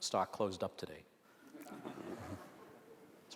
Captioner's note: audience laughter